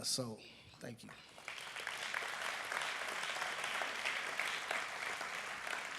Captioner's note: applause